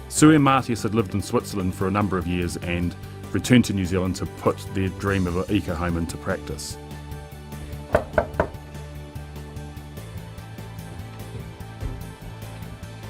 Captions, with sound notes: Sue and Matthias have lived in Switzerland for a number of years, and returned to New Zealand to put their dream of a ECO Home into practice. (knocking)